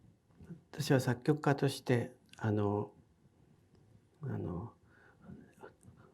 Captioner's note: speaking in foreign language